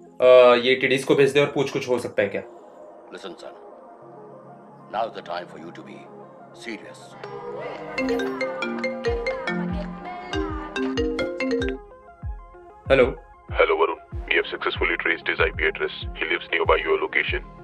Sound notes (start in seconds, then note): 3.1 Reels audio from Satish’s cellphone; 8.0 Varun’s cellphone rings